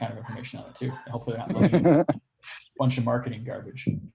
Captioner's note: laughs